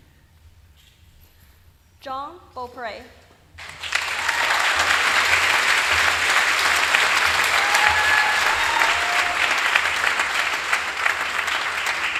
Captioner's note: applause